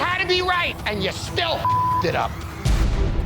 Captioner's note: beep; hard rock music